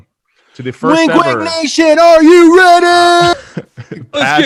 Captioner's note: shouting